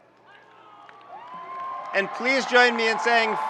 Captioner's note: audience cheering and applauding